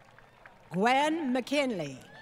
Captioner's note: applause